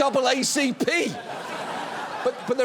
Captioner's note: audience laughs